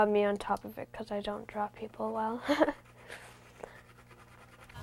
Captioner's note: chuckles